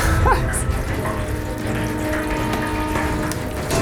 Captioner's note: laughing